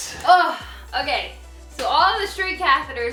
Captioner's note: sigh